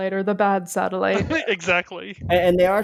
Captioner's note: laughs